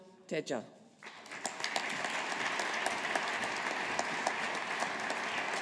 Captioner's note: audience applauding